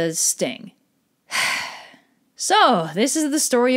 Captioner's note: sigh